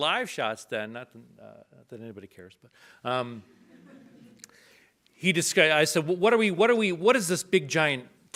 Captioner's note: audience laughs